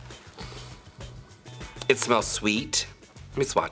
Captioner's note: sniffs